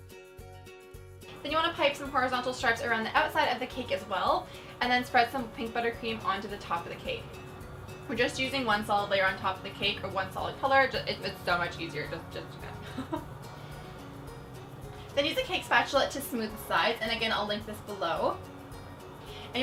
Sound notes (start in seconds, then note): 12.6 laughs